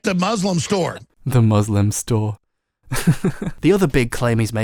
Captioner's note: laughs